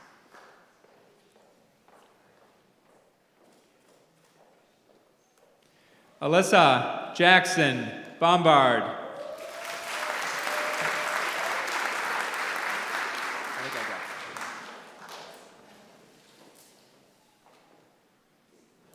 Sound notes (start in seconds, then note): 0.0 applause; 9.2 applause